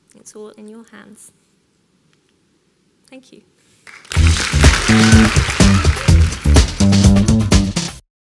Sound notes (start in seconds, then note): 3.8 audience applauding; 5.8 upbeat music